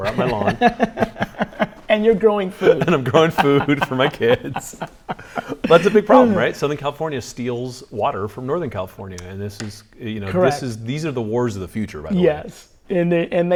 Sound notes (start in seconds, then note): 1.6 laughs